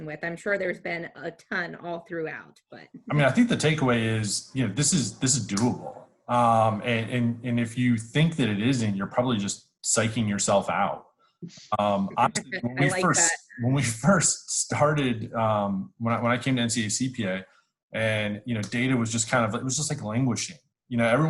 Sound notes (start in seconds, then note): 11.8 laughs